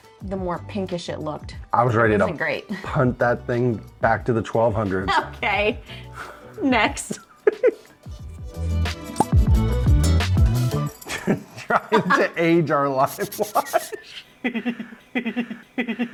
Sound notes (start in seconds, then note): 5.0 laughter; 8.5 laughter